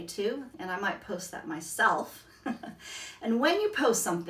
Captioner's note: laughs